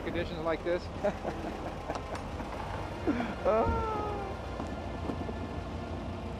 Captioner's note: laughter